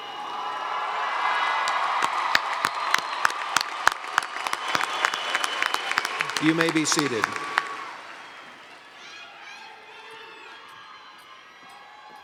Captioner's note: cheers and Applause